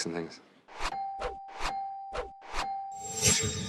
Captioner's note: dinging